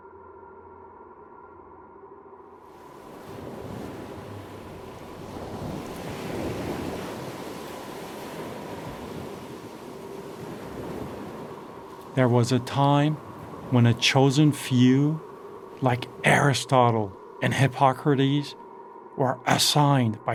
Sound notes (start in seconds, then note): 3.7 waves crashing